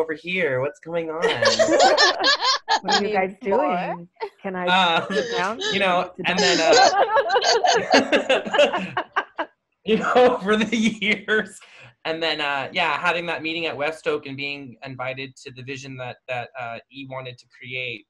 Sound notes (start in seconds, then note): 9.9 laughter